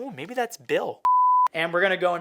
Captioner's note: beep